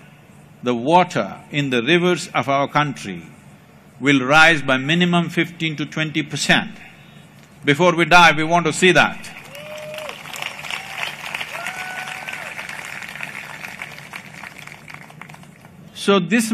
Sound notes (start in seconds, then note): 13.9 applause